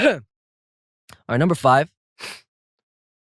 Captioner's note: sniffs